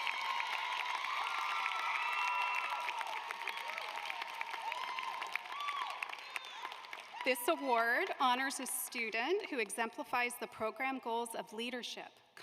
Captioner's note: applause